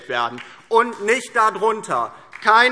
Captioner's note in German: Beifall DIE LINKE